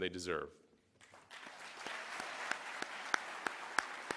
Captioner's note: applause